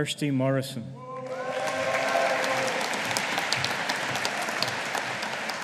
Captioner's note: audience applauding